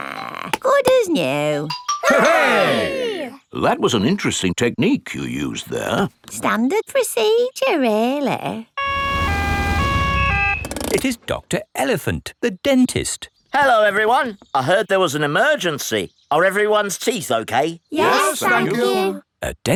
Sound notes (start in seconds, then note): 8.8 siren wails